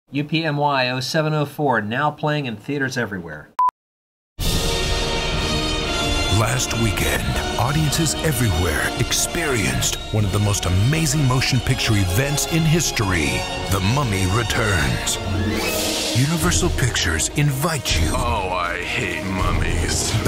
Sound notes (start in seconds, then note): 6.5 voiceover